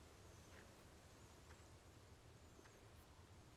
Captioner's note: birds chirping